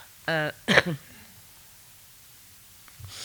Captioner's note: chuckling; coughs